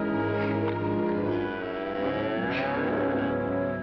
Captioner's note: cow lowing